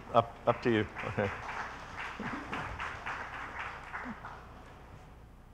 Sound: audience applauding

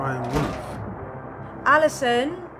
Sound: door slams

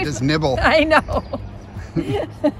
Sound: laughing

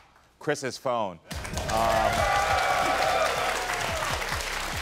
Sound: audience applauds

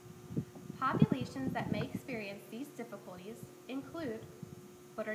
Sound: wind blowing

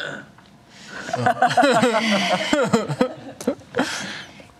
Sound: laughter

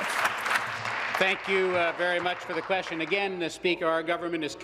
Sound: applause

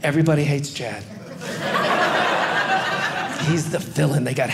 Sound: audience laughing

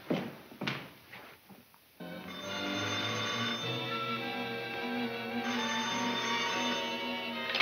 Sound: suspenseful music; phone rings

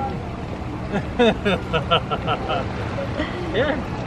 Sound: chuckles

